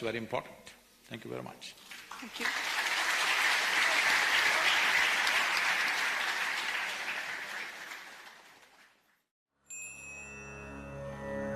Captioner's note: applause